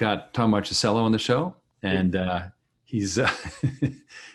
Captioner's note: laughs